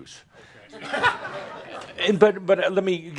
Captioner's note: chuckling